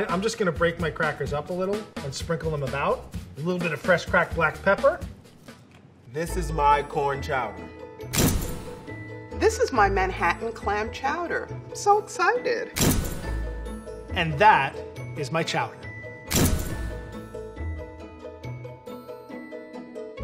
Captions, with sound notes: I'm just gonna break my crackers up a little and sprinkle them about. A little bit of fresh cracked black pepper. - This is my corn chowder. [pounding] - This is my Manhattan clam chowder, so excited. [pounding] - And that is my chowder. [pounding] [upbeat music]